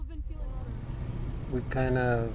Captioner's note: tires screeching